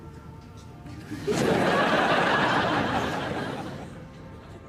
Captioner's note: audience laughs